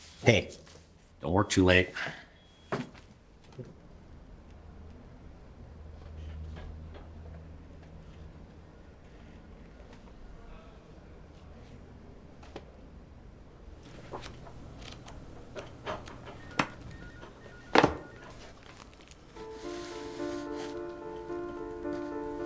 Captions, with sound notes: - Hey, don't work too late. (pages rustling) (gentle music)